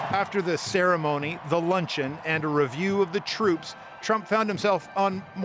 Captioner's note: applause